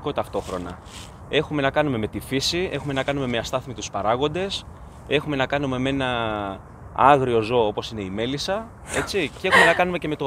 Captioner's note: laughs